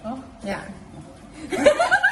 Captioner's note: giggling